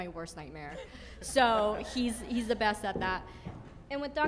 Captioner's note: group giggles